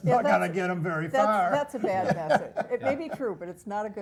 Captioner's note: laugh